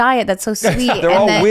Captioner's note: laughs